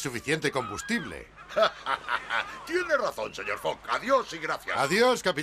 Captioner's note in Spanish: ríe